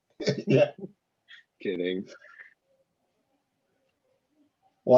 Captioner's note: laughs